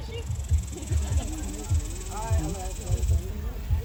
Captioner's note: laughter